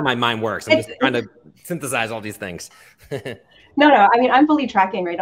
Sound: chuckles

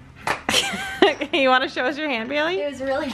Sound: laughs

